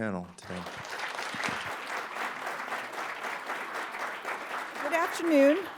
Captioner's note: applause